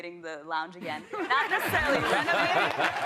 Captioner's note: laughter